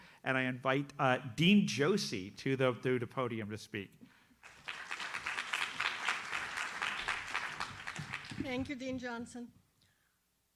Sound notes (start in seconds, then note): 4.4 audience applauds